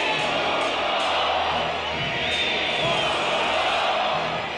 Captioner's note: crowd chanting "Indulto!"